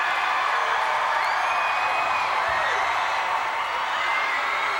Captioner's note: crowd cheers